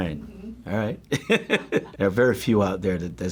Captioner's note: laughs